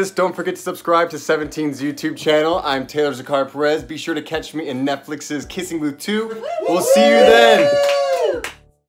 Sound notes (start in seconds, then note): 6.4 cheering